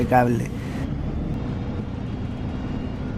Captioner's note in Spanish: sonido ambiente del bus 'Busscar'